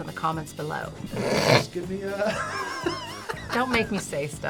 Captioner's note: laughs